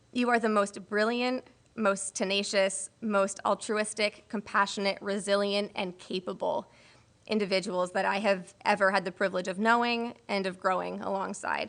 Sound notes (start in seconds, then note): none